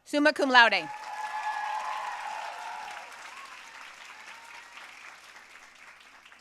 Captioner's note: audience cheering and applauding